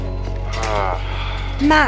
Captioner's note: Max sighs over the phone